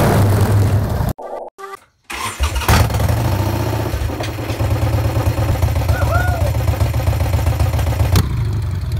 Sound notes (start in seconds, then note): 2.0 engine motor